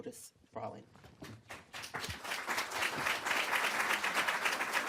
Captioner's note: group applauds